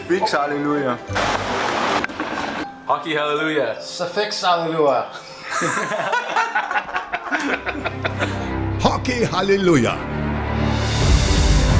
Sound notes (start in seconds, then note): 5.3 laughter